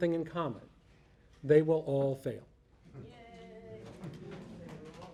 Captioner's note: voiceover